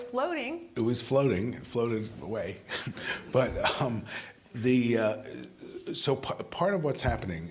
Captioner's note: laughter